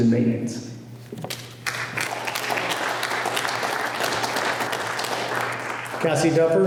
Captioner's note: applause